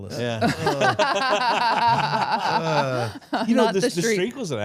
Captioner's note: group laughs